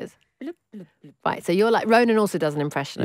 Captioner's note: makes a bubbling noise